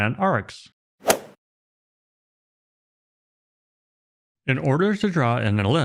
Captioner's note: golf swing sound effect